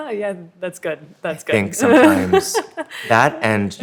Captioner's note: laughs